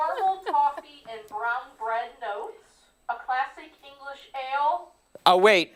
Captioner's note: laughter